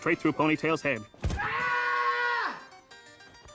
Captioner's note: screams